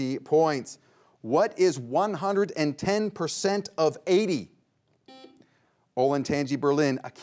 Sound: buzzer beeps once

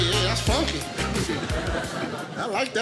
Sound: audience laughing

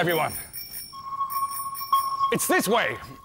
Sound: ding! Ding!

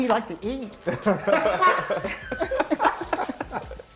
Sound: laughter

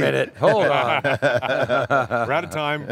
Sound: everyone laughs

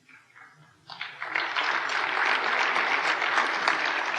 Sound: applause

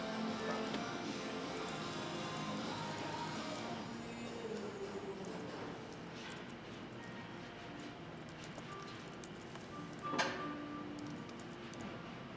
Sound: typing

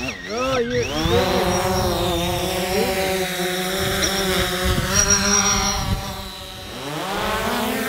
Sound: propellers roaring

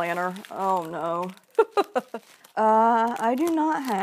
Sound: laughs

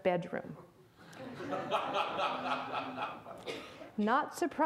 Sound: audience laughs

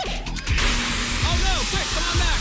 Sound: alarm sounds

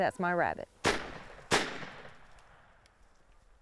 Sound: gunshot

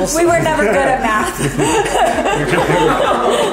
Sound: laughs

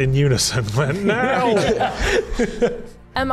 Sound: laughs

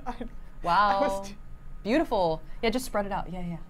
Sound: laughs

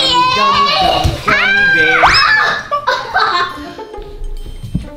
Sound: yelling

